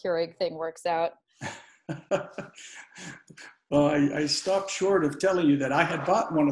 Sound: laughs

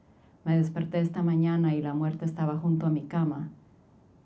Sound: speaking Spanish

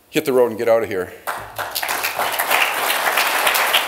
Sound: applause

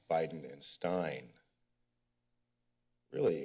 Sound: pause

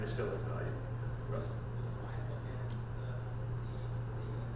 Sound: off-mike talking

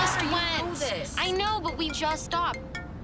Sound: cellphone ringing

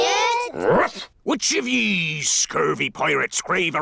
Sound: barks

